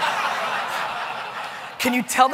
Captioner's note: audience laughing